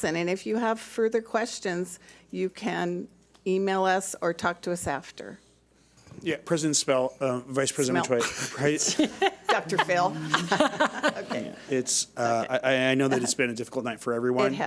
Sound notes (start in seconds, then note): 8.0 laughs